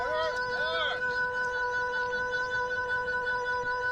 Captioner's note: indistinct shouting